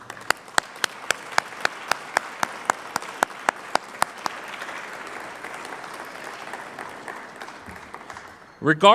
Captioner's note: clapping